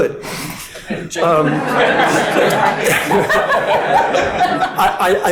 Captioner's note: audience laughing